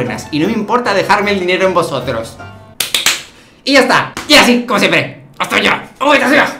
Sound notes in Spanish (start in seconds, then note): 2.8 aplausos